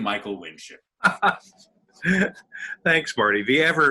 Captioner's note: chuckles